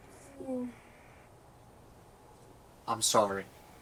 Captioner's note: Farrah moans